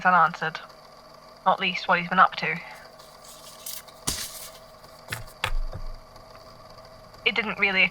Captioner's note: shuffling papers